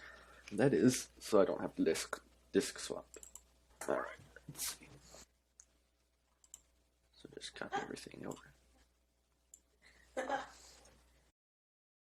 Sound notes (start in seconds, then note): 3.1 clicking; 5.8 near Silence; 10.8 silence